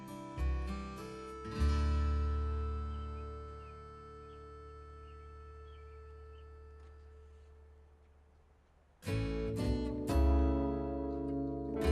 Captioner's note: laughing and cheering